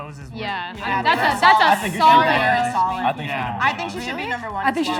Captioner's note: excited chatter